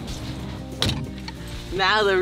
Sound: door slamming

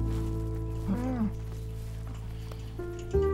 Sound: cow lowing

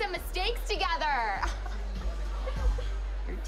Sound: laughs

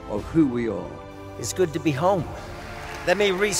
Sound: applause

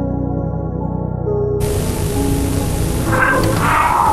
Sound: Static; static and distorted screaming

